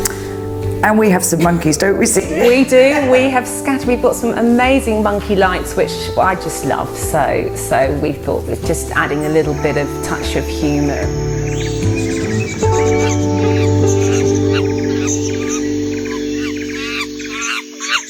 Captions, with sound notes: and we have some monkeys don't we Celia? - We do. We've got some amazing monkey lights which I just love. So, we thought that just adding a little bit of touch of humour. (birds chirping) (monkey chittering)